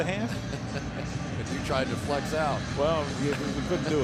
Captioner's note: laughs